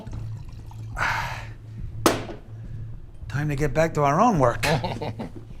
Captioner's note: sighs; Chuck chuckles